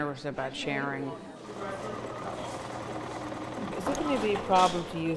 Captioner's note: machine whirring